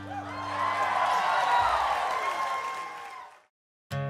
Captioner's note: applause